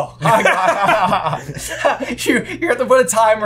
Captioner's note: laughter